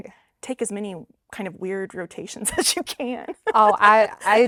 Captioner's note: laughing